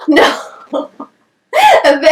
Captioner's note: nervous Laughter